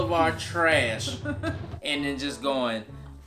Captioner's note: laughs